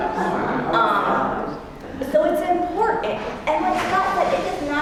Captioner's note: laugh